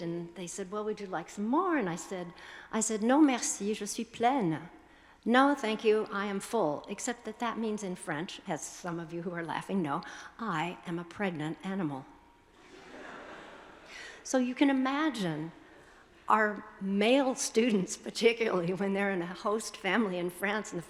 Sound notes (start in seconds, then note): 2.7 speaking foreign language; 12.6 attendees laughing